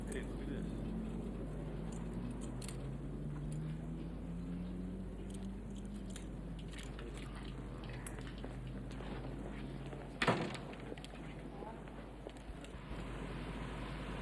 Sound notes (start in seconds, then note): 1.8 keys rattling; 10.2 door thuds